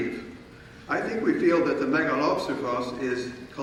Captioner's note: speaking in foreign language